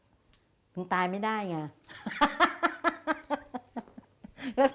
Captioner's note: laughing